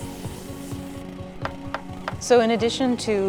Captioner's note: knock, knock, knock